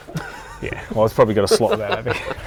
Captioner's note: laughs